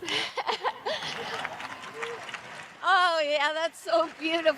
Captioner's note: laughs